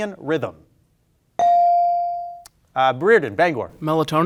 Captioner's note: bell ringing